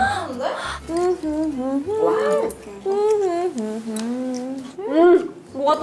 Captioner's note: automatically humming; mmmm mmmm